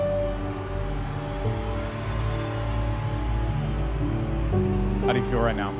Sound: crowd cheering

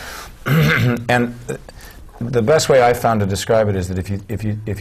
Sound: cough

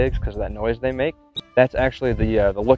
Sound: chirp

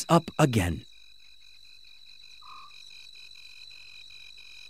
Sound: insects chirping

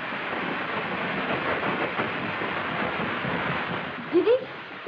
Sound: crackers Sound

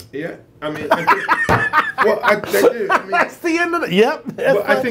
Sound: laughs

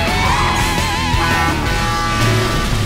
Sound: honking

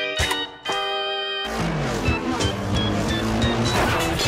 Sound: upbeat pop music; engines revving; metal crashing

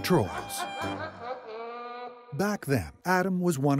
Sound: laughter

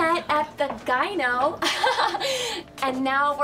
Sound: awkward laugh

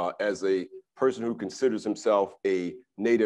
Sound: none

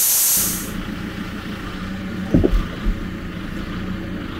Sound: engine running

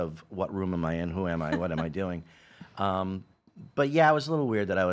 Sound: laughing

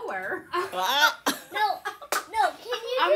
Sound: laughter

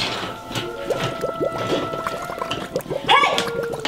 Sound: liquid bubbling

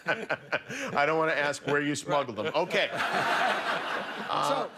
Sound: laughter

